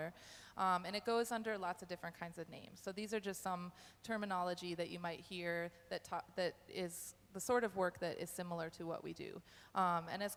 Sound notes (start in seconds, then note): none